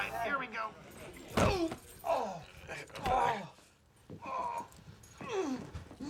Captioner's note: thud; grunting